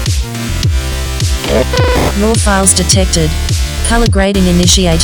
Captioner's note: upbeat electronic music; electronic Voice